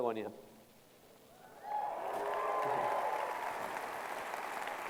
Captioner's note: applause